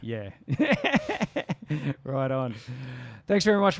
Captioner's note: laughs